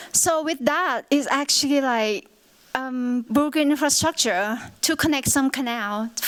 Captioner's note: none